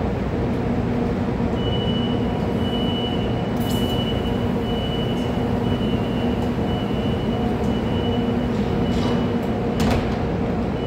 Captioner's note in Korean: 출입문 닫힘